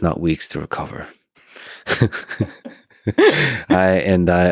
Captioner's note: both laughing